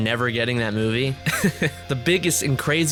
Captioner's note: laughs